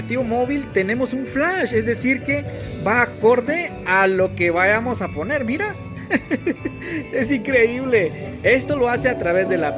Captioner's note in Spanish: risas